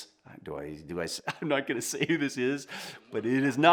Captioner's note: chuckles